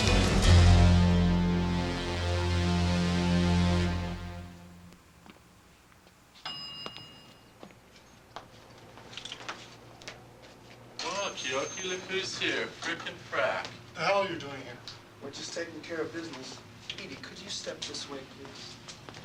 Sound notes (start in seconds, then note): 0.0 ominous music; 6.4 elevator bell ringing